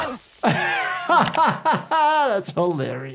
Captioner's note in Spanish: persona riendo